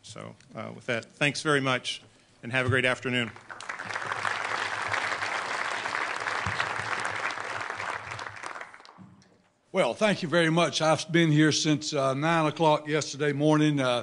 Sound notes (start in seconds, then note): 3.0 applause